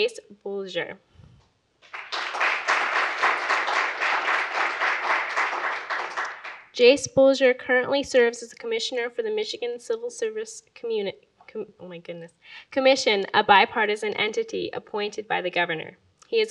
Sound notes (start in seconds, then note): 1.8 audience applauds; 11.1 stutters